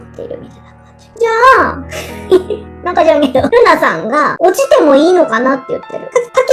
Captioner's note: laughs softly